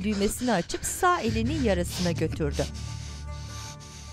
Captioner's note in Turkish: Nefes sesi